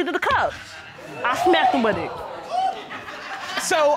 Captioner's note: audience laughing